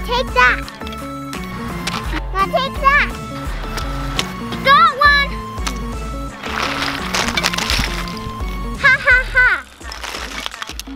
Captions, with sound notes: - Take that. Now take that. - Got one. (body thuds) - Ha ha ha.